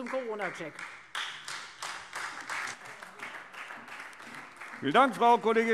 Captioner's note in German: Beifall Freie Demokraten und SPD